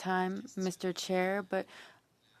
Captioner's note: speaking French